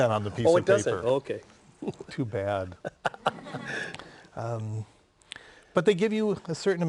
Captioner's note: laughter